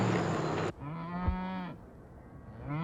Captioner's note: cows mooing